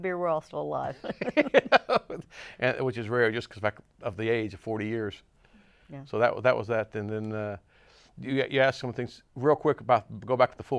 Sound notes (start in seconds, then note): 1.2 laughs